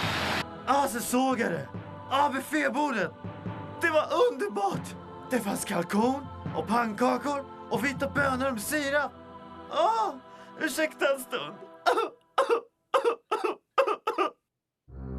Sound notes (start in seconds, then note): 11.8 crying